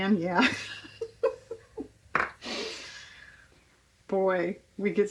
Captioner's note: laughs